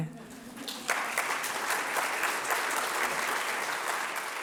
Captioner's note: crowd applauding